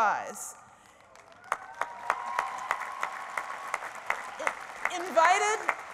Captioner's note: applause